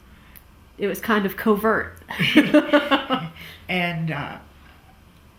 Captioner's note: laughs